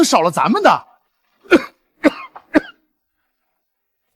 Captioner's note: cough, cough, cough